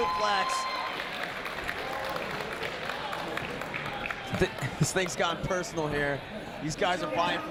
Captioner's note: applause